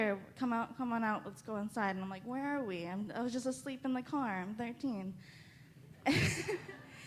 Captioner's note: laughs